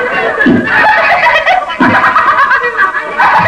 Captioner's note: laughing